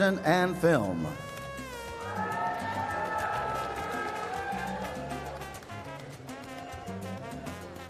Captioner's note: applause and Music